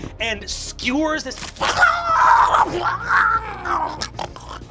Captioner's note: crunching and snarling